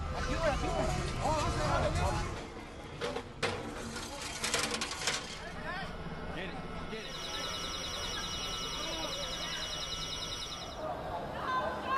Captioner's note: horns honking